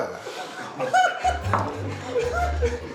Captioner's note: laughs